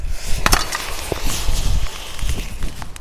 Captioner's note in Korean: 그릇 깨지는 소리